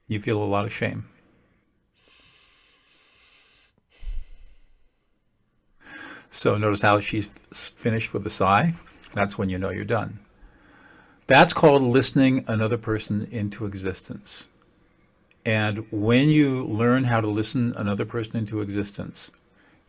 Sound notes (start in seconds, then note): 2.0 sighs